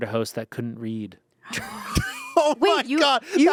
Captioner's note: laughs